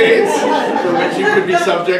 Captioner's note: laughing